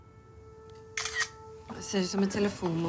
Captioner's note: shutter clicks